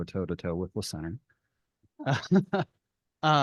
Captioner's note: laughs